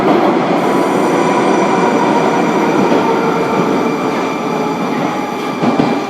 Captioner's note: braking - arrival at the station